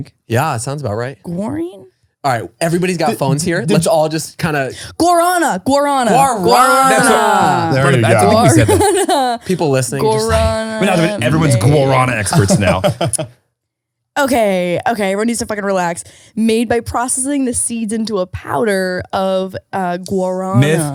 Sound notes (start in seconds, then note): 10.0 laughs; 14.2 laughing